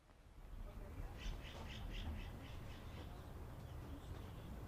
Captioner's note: birds chirping